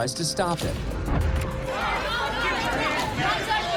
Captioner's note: shouting